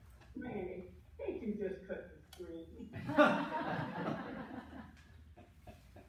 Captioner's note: laughter